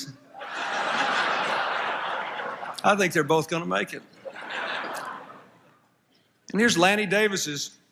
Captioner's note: laughter